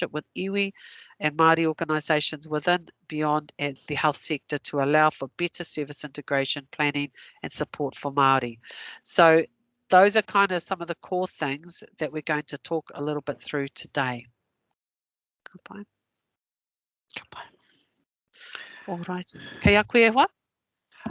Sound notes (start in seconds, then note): 15.8 non-english; 19.0 non-english speech